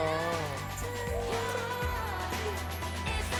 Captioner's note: cheers